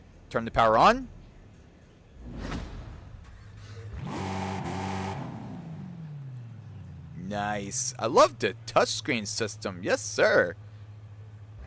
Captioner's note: engine starts; engine revving